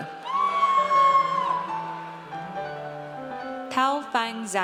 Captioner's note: audience cheers